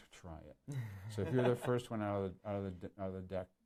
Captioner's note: laughs